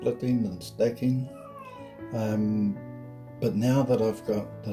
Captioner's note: meow